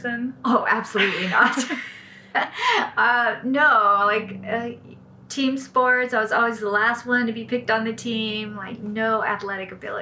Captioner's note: laughs